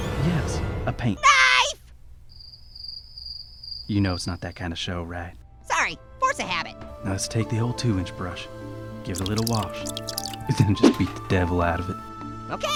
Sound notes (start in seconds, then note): 2.1 crickets chirping